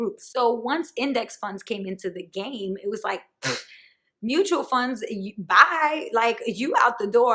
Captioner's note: huff & puff sound